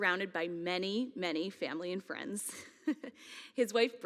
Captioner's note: laughs